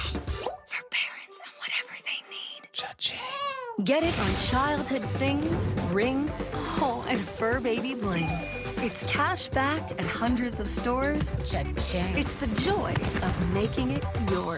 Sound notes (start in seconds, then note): 1.1 whisper